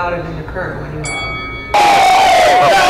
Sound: Boxing bell sound; crowd jeering

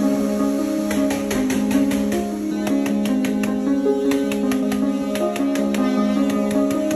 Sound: bright music; pounding sound of staples being put in place

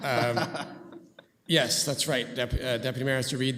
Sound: laughter

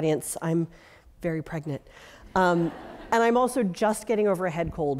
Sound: laugh

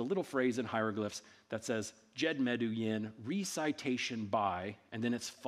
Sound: speaking in ancient Egyptian

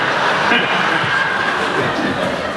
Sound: laughs

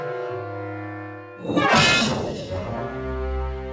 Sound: anvil falling

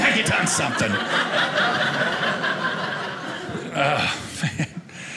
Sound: audience laughing

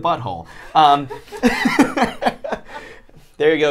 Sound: all laugh

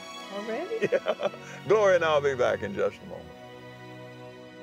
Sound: laughs

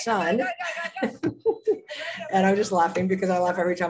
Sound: laughter

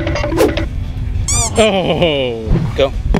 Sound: timer counting down; squeak

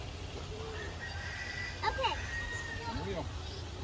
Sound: rooster crowing

